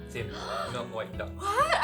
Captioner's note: gasp